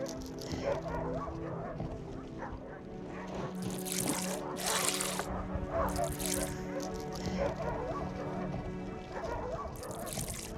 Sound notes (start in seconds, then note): 0.6 distant dogs barking; 3.6 splashing